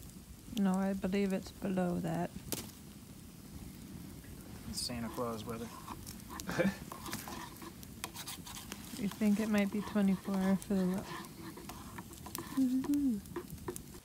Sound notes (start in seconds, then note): 6.4 laughs